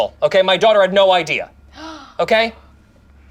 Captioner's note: gasps